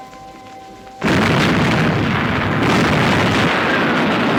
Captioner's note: bombs exploding